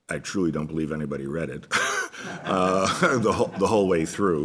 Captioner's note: laughs